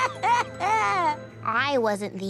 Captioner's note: crying